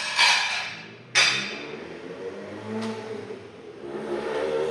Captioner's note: dishes clattering; motorcycle rumbling